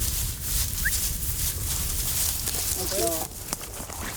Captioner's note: whistling